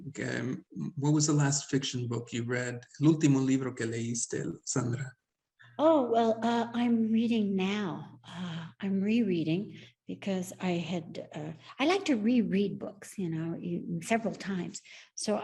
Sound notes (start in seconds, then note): 4.5 speaks Spanish